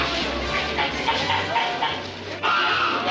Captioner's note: goose quacking